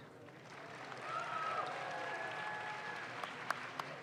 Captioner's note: audience claps